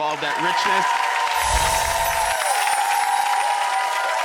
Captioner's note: audience applauds